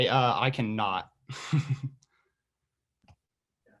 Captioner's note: laughing